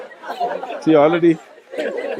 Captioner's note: laughter